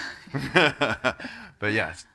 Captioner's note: laughs